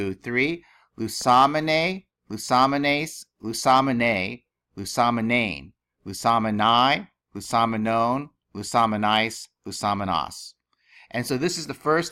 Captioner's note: speaking greek